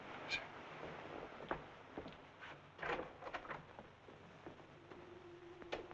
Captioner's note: footsteps thumping; door rattling; door thumping; suspenseful music